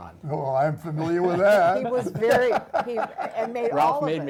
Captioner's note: laugh